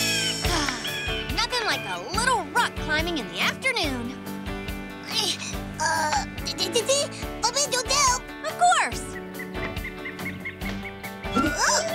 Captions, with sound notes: [sighs] Nothing like a little rock-climbing in the afternoon. [grunting] Uh, Felicity? A little help! Of course!